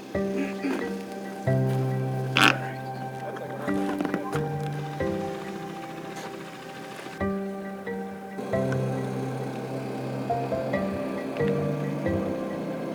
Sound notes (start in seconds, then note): 0.3 gentle upbeat music; 5.8 boat engine rumbling; 5.8 gentle upbeat music